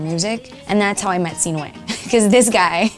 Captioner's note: laughs